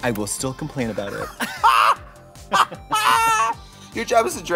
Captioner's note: laughter